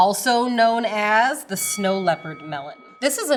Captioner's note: bell dings